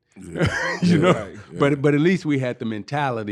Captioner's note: laughing